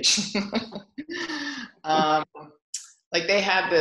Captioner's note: laughs